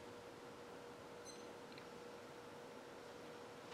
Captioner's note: timer beep